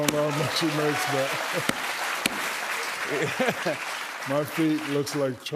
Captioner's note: cheers and applause